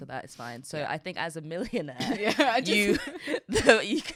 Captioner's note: both laughing